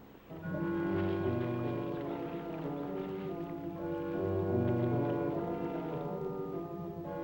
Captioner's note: mysterious music; water splashing